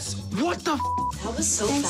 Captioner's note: beep